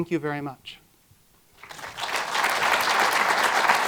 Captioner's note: applause